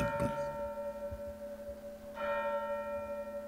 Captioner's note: church bell